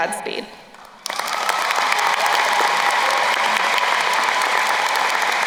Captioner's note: crowd cheering and applauding